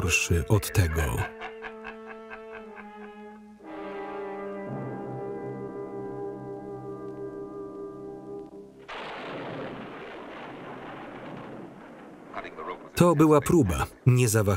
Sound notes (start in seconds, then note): 1.1 laughing; 8.8 thunder rolling